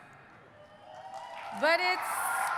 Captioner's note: audience cheering